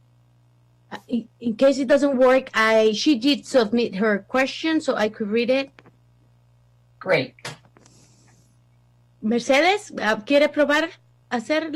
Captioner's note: spanish